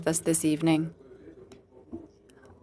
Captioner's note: speaking French